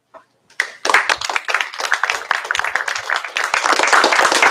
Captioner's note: applause